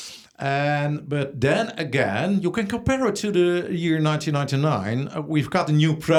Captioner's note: inhales